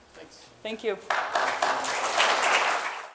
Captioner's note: applause